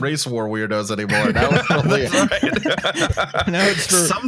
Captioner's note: laughing